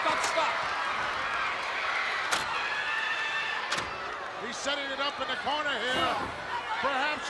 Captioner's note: applause